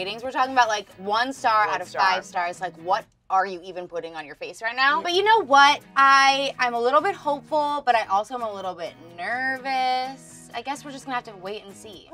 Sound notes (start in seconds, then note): none